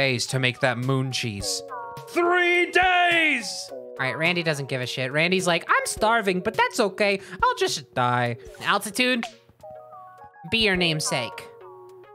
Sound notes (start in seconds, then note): 5.8 little guy voice